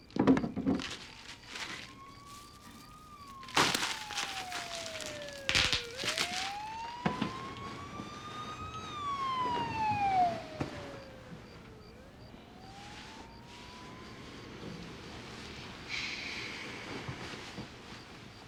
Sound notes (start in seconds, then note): 3.0 siren wails in distance; 4.8 popping